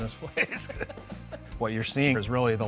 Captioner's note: laughs